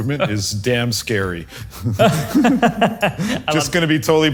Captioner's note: laugh